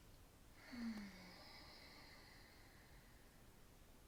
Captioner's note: inhales deeply; exhales